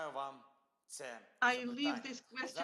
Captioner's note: Volodymyr speaking foreign language